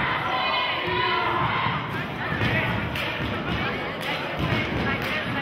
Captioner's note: chanting and cheering